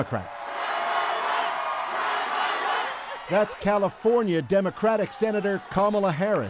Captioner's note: cheers and Applause